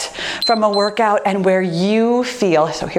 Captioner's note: timer beeps